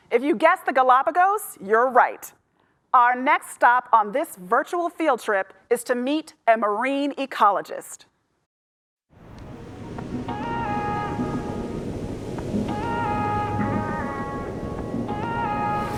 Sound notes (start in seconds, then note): 9.2 waves crashing; 11.2 soft upbeat music